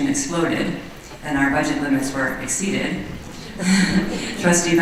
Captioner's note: laughter